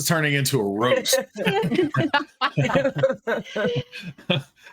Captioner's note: everyone laughing